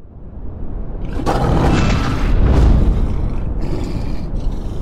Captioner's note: beast growling